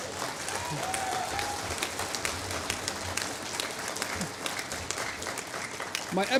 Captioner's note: applause